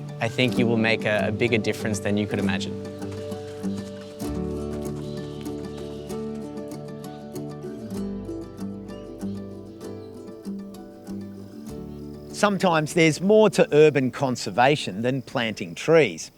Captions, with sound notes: I think you will make a bigger difference than you could imagine. [footsteps] [birds calling] [music fades] [insects calling] - Sometimes there's more to urban conservation than planting trees.